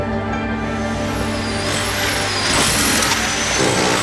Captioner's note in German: Bohrgeräusche